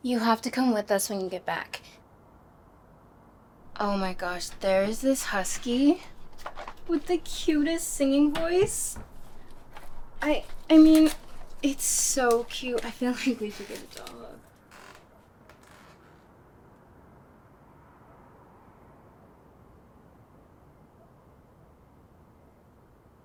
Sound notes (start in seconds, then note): 15.0 faint whisper; 20.4 silence